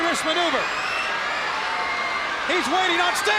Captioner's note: crowd cheering